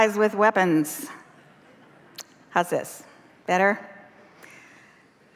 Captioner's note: laughter